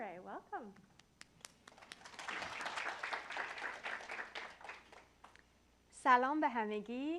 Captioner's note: applause